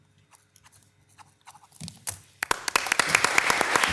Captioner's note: pen scratching; all applauding